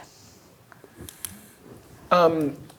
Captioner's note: pen clicks